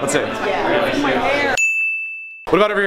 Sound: ding

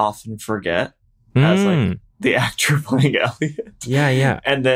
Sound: chuckles

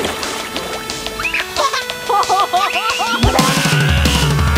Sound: they laugh

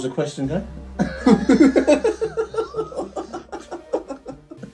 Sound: both laughing

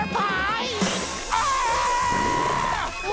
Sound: screaming

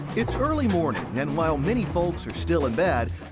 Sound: sound of opening tailgate of pick-up truck

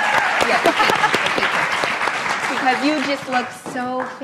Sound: applauds

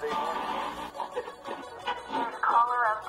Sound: static crackling

